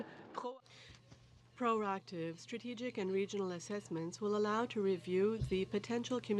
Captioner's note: speaking french